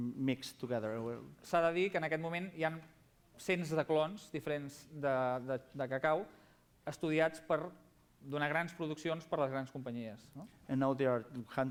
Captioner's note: non-english speech